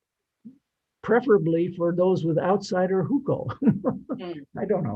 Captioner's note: laughs